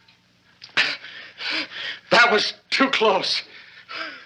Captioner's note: gasping